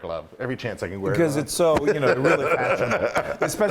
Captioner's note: laugh